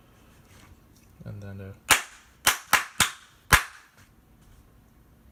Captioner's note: clapping